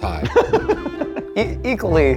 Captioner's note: laughs